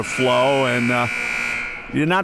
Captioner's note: buzzer ringing